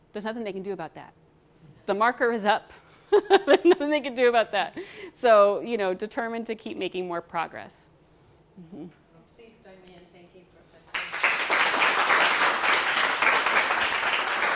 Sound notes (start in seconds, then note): 2.9 laughs; 10.9 audience applauding